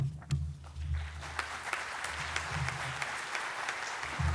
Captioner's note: audience applauds